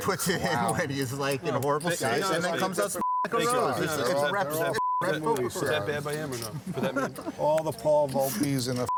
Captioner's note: chattering